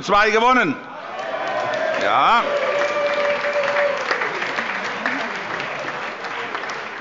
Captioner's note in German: Lebhafter Beifall